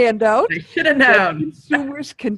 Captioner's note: chuckles